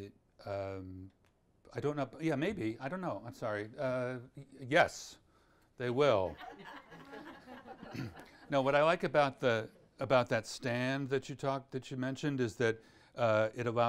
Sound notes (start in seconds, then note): 6.4 audience laughs